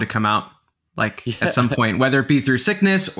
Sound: laughing

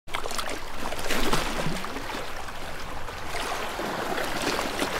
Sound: sound of waves lapping

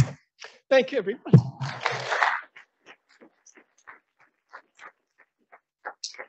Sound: audience applauding

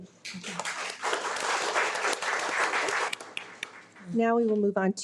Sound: audience applauds

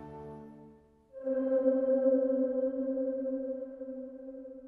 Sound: ominous chime

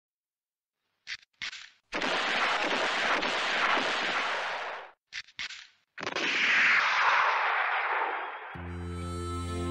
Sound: sound of shots; sound of weapon loading

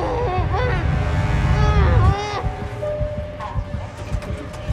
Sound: whimpering; train doors open

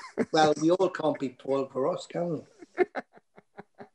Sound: laughter

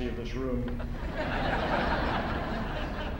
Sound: laughter

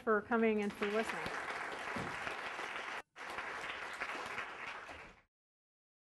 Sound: applause

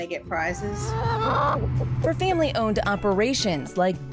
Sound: chickens cluck

